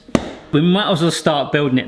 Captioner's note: dough slapping board